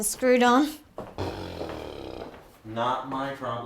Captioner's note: Liva blows raspberry